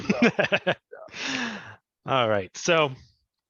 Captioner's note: laughs